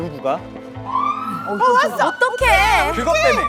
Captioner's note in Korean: 사이렌 소리